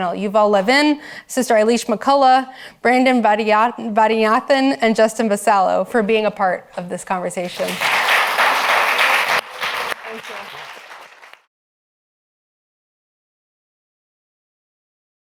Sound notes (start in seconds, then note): 7.4 audience applauds